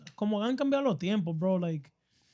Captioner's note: speaking In Foreign Language